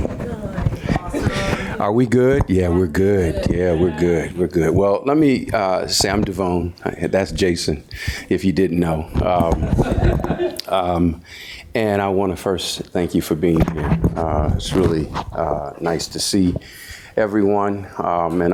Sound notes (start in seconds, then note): 9.6 audience laughs